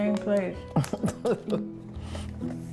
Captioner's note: laughs